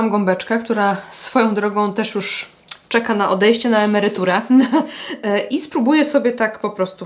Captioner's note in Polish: śmiech